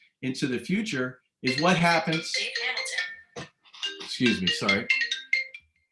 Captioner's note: phone rings